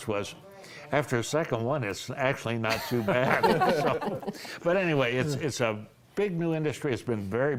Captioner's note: laughter